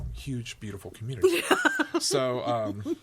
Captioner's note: laughs